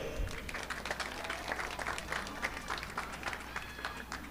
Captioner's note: audience clapping